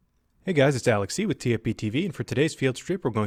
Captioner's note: voiceover